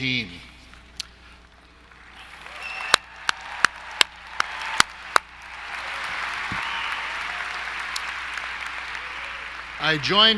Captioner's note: applause